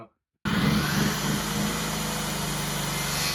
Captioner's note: motor whirring